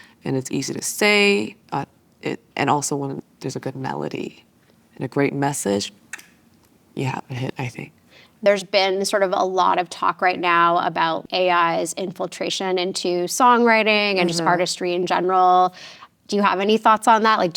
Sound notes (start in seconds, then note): none